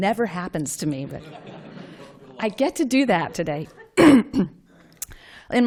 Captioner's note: laughter